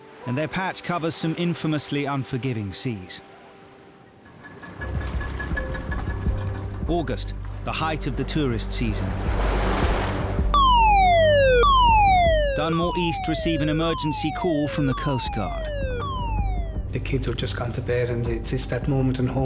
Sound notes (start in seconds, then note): 4.7 dramatic music; 9.2 waves crashing; 10.5 alarm blaring